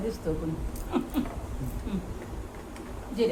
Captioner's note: laughs